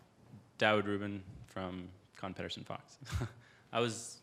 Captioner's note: laughs